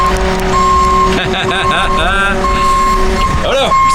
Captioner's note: laughs